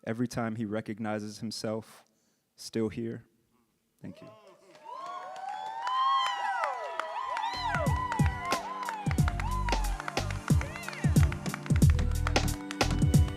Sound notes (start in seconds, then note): 5.9 audience cheering and applauding; 7.5 upbeat music